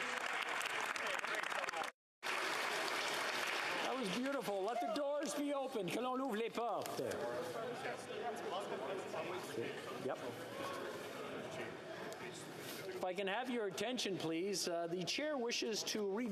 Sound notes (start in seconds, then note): 0.0 applause